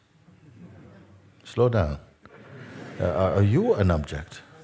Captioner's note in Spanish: risas